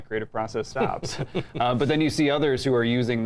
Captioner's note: chuckles